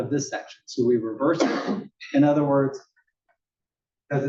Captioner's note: cough